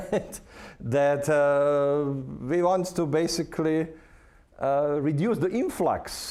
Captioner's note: laughing